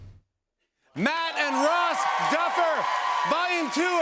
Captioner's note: cheers and applause